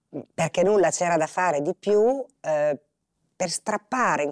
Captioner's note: Italian spoken audio